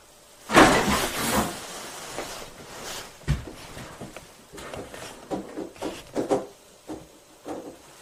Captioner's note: thumping and bumping